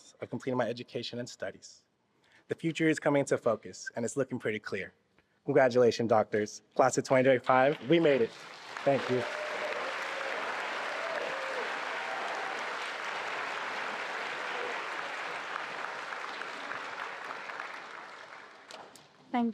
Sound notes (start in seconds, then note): 9.6 attendees applauding and cheering